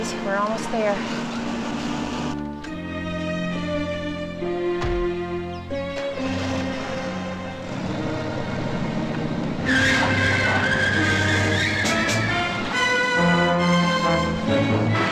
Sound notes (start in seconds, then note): 5.9 engine starts; 9.7 tires squealing